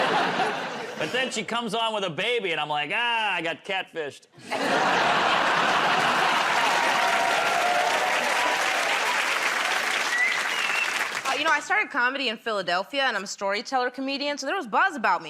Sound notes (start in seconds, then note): 4.4 laughter; 8.7 cheers and applause